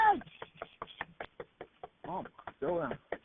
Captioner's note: mom knocks